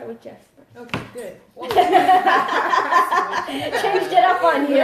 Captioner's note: laughter